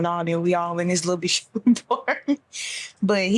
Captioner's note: laughs